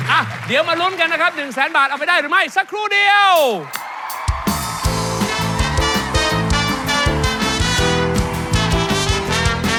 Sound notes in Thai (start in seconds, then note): 3.7 ปรบมือ